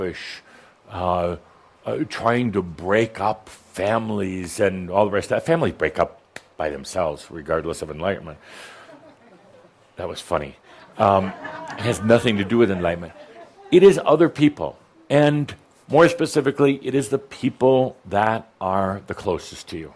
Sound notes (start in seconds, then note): 11.1 a few chuckles